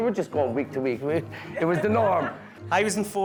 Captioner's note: guests laughing